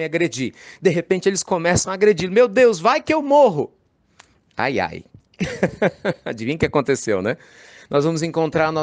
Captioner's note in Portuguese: Risos